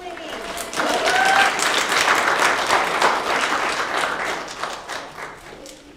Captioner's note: applause